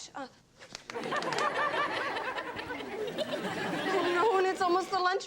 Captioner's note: audience laughs